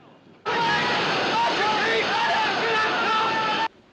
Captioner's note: Gritando